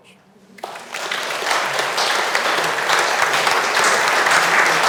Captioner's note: audience applauds